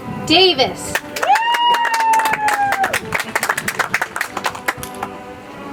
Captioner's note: audience applauds; soft music